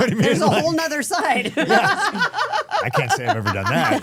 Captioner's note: laughing